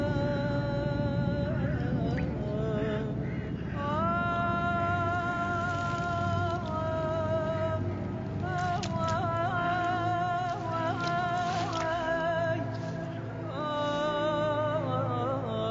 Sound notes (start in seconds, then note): 0.3 motor rumbles; 8.6 sloshing